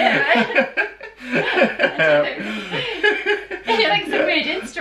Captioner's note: laughter